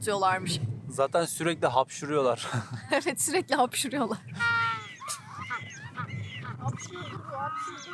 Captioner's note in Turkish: kahkaha